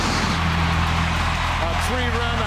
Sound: loud bang

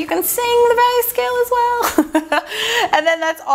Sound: laughs

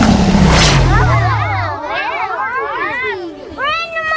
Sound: children woo

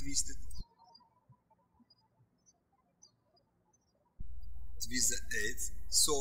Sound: birds chirping

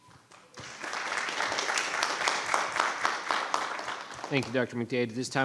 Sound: audience applauds

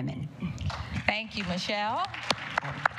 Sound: applause

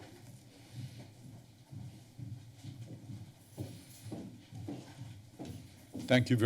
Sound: footsteps

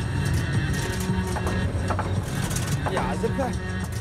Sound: engine knocking

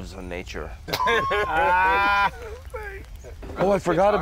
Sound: laughing

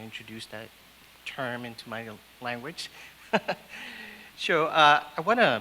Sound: laughs

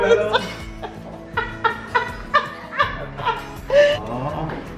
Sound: laughs

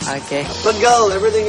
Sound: non-english

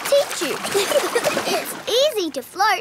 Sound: giggling

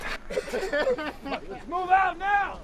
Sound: laughs

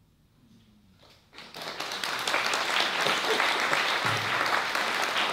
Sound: applause

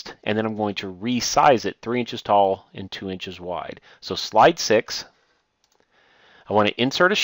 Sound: click

